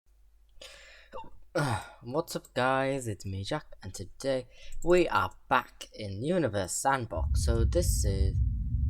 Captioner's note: hiccups